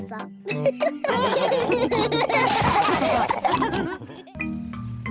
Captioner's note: all giggle